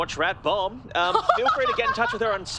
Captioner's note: laughs